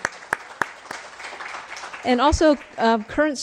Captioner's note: crowd applauds